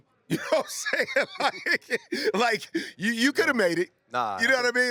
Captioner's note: laughs